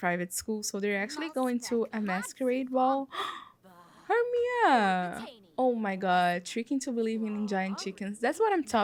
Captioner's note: gasp